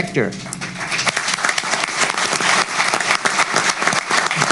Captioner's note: applause